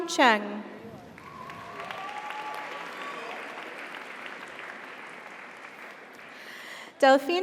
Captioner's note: audience cheers; audience applauds